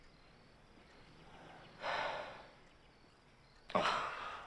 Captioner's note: sighing